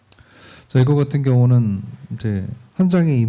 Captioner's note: speaking korean